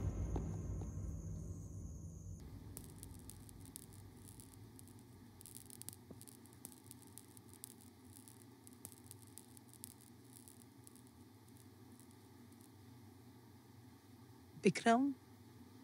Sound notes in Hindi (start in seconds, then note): none